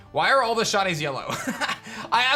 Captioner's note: chuckles